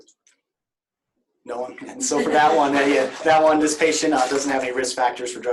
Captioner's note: laughter